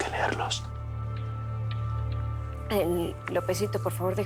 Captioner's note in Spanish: Susurra